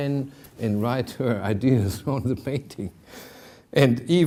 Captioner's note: chuckling